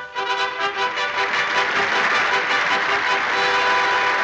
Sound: instrumental music; audience applauding

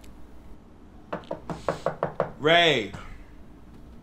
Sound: knocking

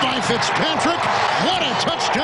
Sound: nats: cheering

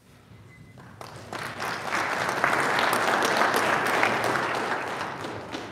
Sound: audience applauding

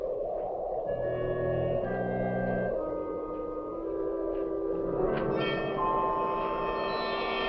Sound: wind whoosing; intense instrumental music

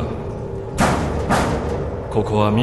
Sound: two knocks on wall

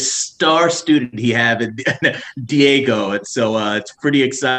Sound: chuckles

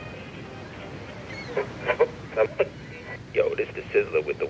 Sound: radio static

